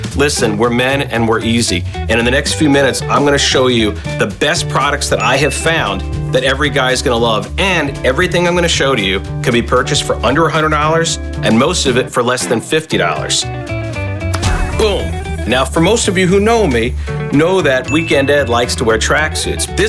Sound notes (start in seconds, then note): 14.2 snaps fingers; 14.2 drum cracking